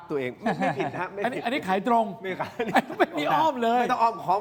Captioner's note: laughs